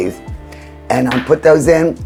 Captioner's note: saucer clinking